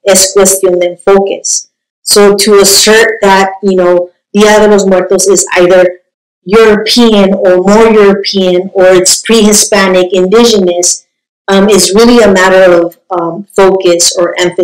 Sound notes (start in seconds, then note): 1.1 speaking spanish